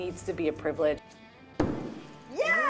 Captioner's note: axe hitting wood